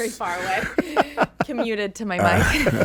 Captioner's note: laughs